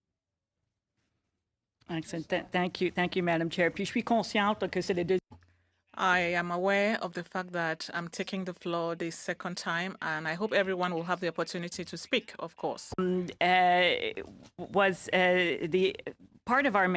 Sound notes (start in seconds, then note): 9.7 speaking French